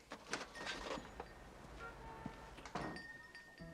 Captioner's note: doorbell ringing